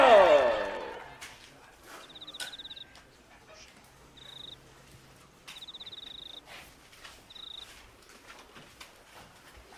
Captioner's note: total silence, crickets chirping